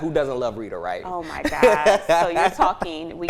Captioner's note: laughs